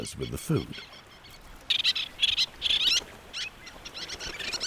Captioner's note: birds squawking